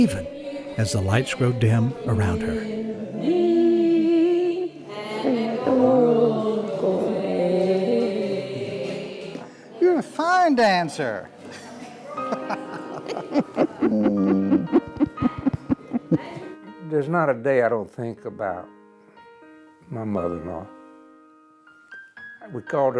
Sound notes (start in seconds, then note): 11.5 laughter